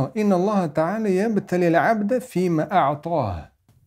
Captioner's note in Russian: Говорит на арабском